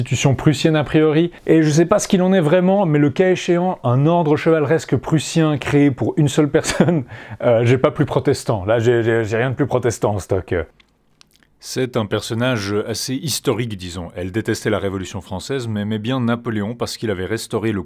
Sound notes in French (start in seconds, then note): 7.3 rire